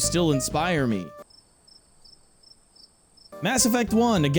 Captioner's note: cricket noises